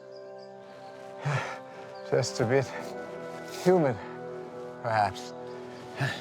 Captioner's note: gasping